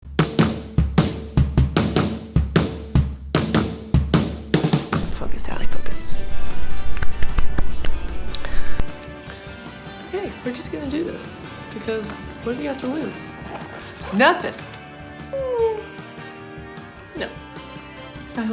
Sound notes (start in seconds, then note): 0.0 upbeat drum music; 6.7 hands clapping